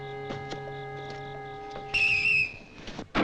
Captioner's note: whistle blowing; gun firing